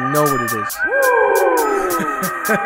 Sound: woooooooo; laughs

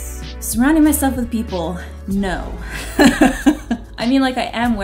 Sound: laughs

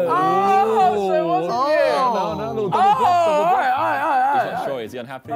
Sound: group chattering

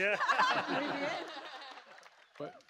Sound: laughter

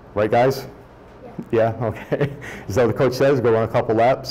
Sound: laughs

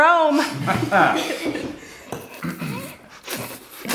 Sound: all laughing

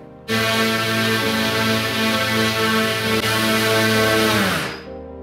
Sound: electric motor running

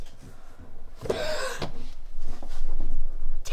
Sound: gasps

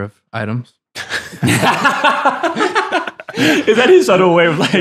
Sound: laughing

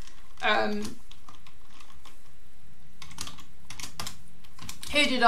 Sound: keyboard clicking

